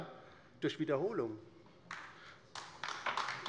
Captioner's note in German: Beifall bei der LINKEN